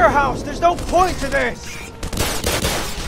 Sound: gunfire

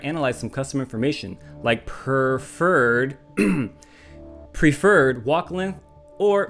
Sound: clears throat

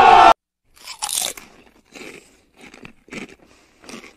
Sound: continues eating

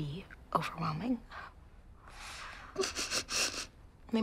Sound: crying

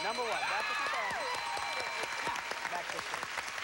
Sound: cheers and applause

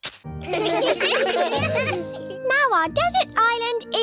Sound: laughter

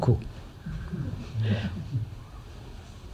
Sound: laughter

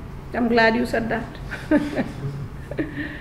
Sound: giggles

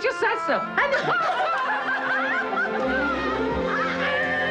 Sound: all laughing; bright music

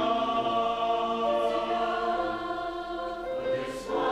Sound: high voices; whole choir

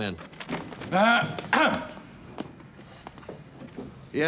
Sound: man coughs loudly

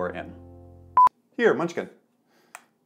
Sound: recording beep

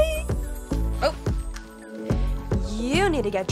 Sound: Kendall squealing

